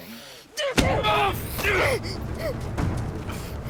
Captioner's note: Noah screams; Mackenzie grunts; fast ominous music